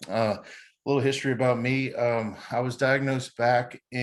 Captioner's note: chuckles